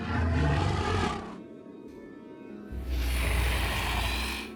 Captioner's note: dragon growls